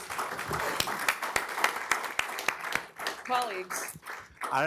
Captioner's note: applause